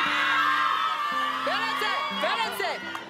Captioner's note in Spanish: Exclamaciones